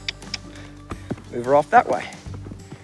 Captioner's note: clicking